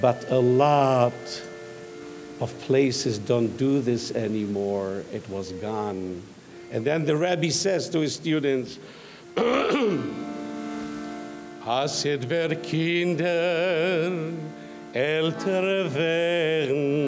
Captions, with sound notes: but a lot of places don't do this anymore, it was gone. And then the rabbi says to his students, (clears throat). (singing in foreign language)